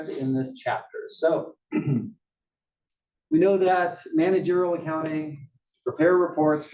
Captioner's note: cough